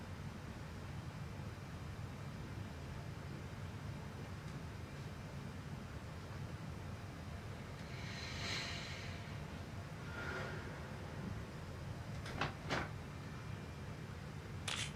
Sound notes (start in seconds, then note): 7.6 Billy deeply breathes